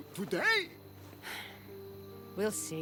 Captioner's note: sigh